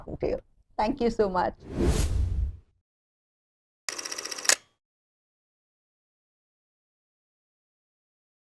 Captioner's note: camera shutters clicking